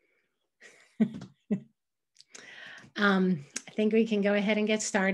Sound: chuckles

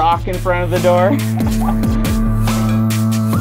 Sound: laughter

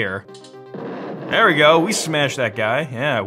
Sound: exploding

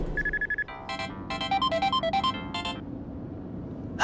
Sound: phone rings

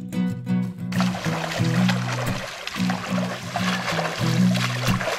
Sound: water sloshes

